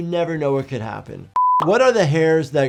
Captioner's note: screen beeping